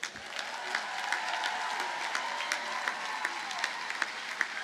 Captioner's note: audience cheers and applauds